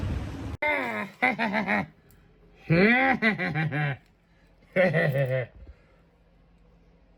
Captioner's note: giggles and laughs